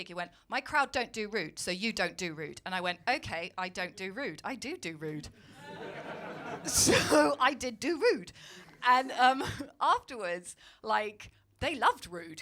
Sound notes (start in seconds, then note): 5.5 crowd laughing